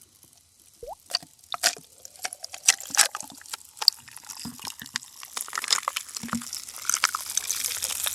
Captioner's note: Coke ASMR